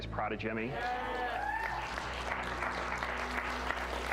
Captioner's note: kids cheer for Jimmy